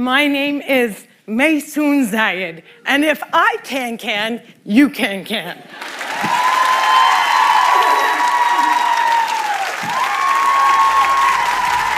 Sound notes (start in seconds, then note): 5.8 cheering; 7.7 applause